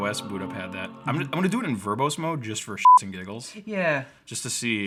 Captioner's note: beep